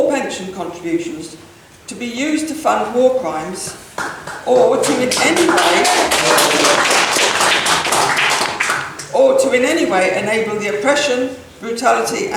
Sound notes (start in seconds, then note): 6.6 applause